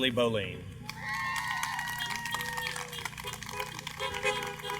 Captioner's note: applause